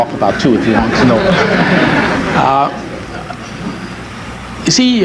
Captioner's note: audience laughs